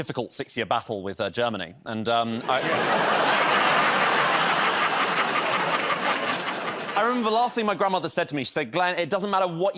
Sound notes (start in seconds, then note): 2.4 laughter